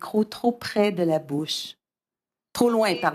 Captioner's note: speaking french